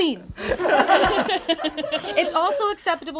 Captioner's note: all laugh